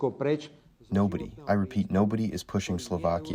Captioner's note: through translator